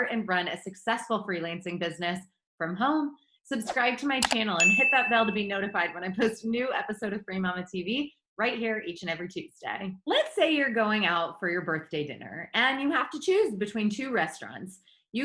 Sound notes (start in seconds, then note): 4.2 icon clicks; 4.5 bell rings